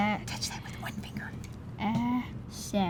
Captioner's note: whispering